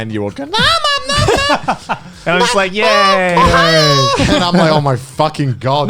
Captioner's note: laughs; mimics voice